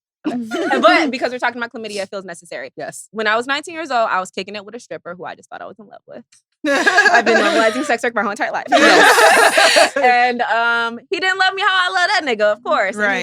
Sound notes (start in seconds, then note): 8.6 all laughing